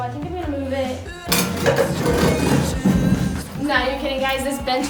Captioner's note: bench scraping against ground